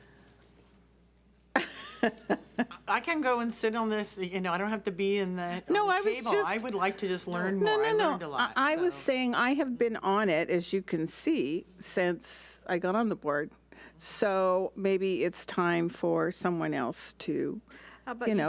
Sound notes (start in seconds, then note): 1.6 laughs